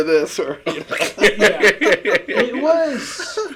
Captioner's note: everyone laughing